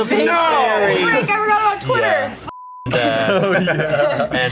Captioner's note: beep